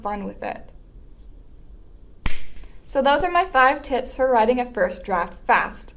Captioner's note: snap